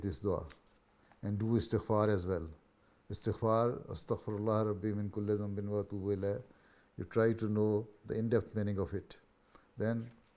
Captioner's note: Arabic